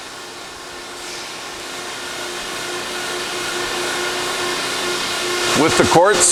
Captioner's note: machine noise